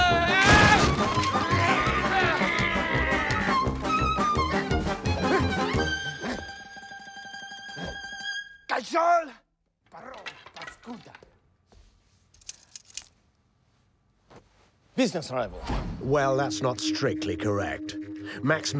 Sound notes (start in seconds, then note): 0.1 grunts; 8.6 grumbles in Russian